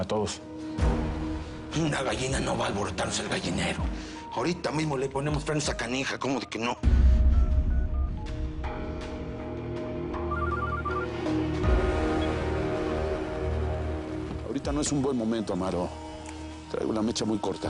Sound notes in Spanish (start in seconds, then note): 8.4 Sonido al marcar; 10.2 Suena el celular